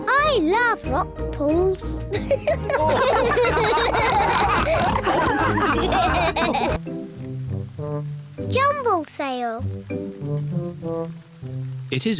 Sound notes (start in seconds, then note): 2.2 all giggle